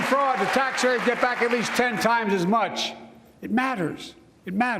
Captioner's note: applause